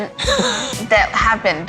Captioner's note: laughs